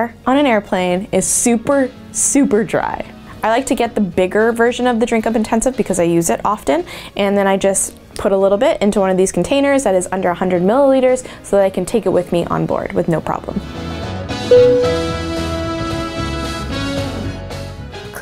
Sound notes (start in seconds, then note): 14.5 upbeat music; 14.5 dinging